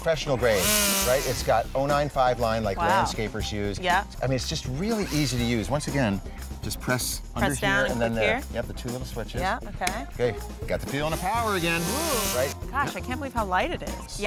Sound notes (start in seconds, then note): 0.5 tool sound; 11.1 tool sound